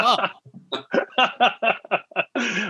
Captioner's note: laughing